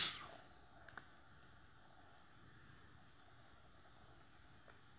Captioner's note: silence